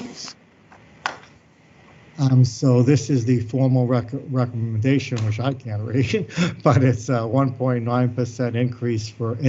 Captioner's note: laughs